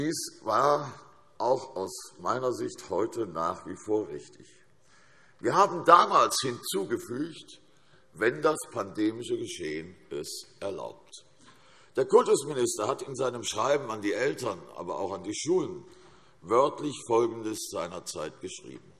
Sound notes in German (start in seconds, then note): none